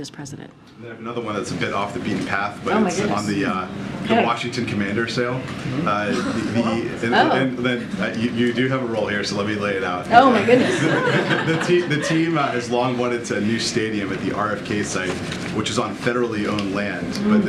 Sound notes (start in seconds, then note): 10.2 laughter